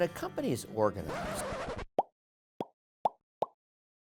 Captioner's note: record scratch